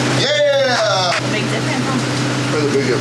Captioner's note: claps